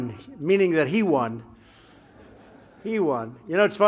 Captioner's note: laughter